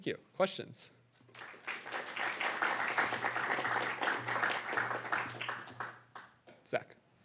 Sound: applause

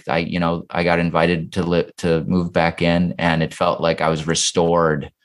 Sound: none

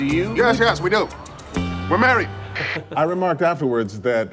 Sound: walkie talkie static

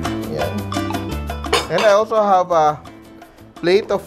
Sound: clang

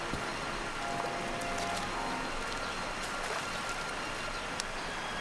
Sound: splashing

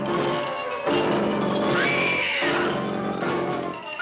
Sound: screaming

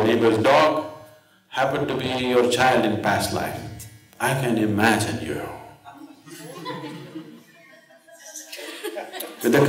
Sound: laughter

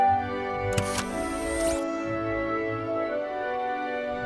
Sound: machine buzzing

